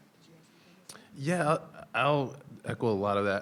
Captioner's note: people chattering distantly